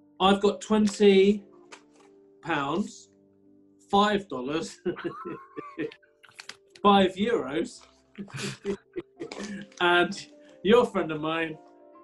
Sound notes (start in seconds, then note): 4.8 chuckling; 8.2 laughing